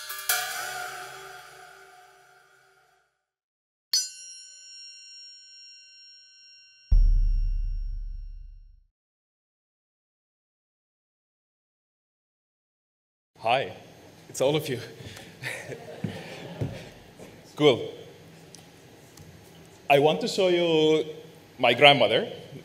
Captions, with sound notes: (metal chiming) (drum pounding) - Hi, it's all of you (laughs) (audience laughs) Cool, I want to show you my grandmother.